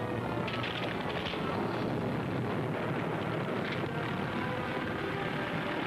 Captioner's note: fire roaring; ground cracking; dramatic music